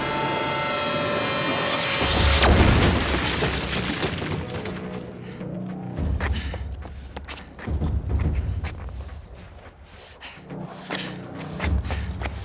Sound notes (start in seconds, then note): 2.1 explosion thudding